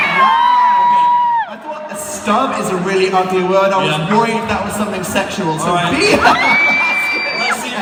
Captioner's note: laughs